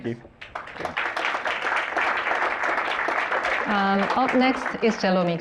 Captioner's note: applause